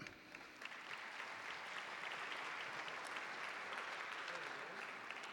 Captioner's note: audience applauding